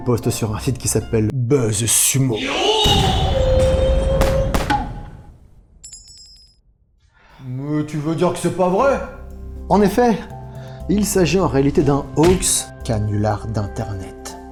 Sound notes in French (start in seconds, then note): 3.9 cri traditionnel de théâtre kabuki et explosions